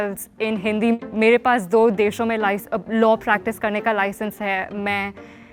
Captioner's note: speaking Hindi